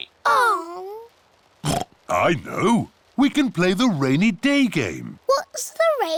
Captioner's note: oinks